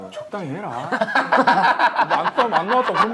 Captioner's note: laughing